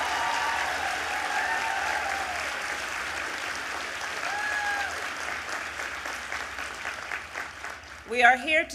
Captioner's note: applause